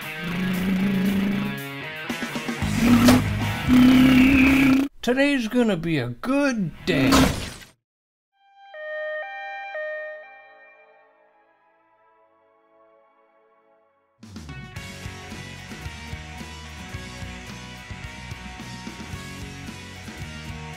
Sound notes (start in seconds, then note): 0.0 rock music building up; 8.4 ambulance siren